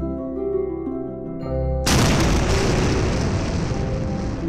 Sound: explosion

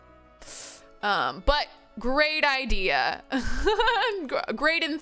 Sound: laughs

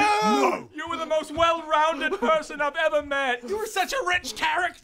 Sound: cries

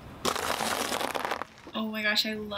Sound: bread crunches

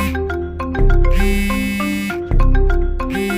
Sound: phone Rings

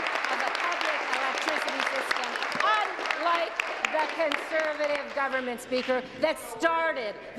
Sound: applause

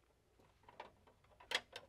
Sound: none

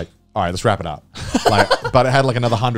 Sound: laughing

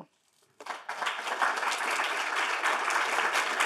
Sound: crowd clapping

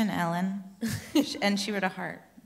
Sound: laughs

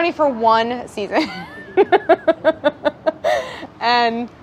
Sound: laughing

